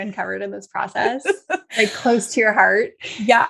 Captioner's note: laughing